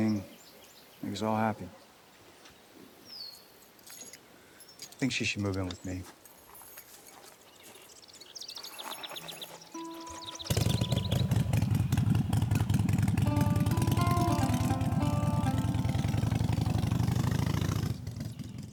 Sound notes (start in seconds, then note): 9.8 motorcycle starts; 13.8 guitar strings plucking